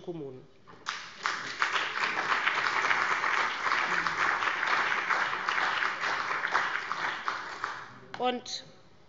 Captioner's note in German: Beifall bei dem BÜNDNIS 90/DIE GRÜNEN und der CDU